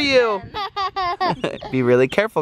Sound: laughs

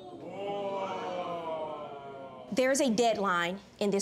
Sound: audience disapproving

